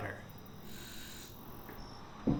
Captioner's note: water filling